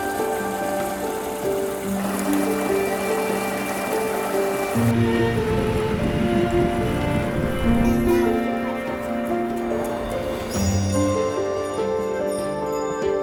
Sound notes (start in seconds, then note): 2.2 bell dings